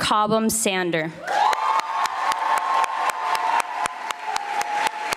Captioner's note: audience applauding